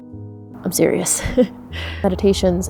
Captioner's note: chuckles